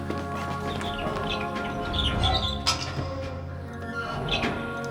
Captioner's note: hinges squeaking